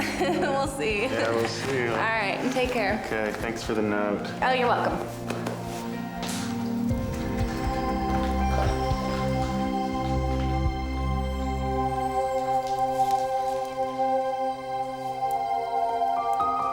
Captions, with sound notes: - We'll see. - Yeah, we'll see, you know? - All right. And take care. - Okay, thanks for the note. - Oh, you're welcome. (hand thumping) (brooding choral music)